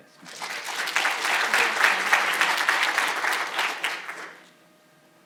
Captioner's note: audience applauding